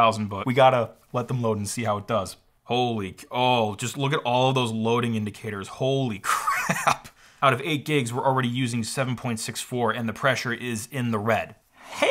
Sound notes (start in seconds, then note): 6.3 laughs